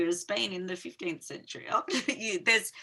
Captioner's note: chuckling